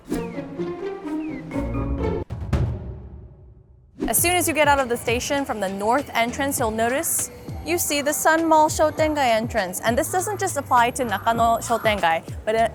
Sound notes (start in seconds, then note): 0.0 quirky music; 1.7 graphics booming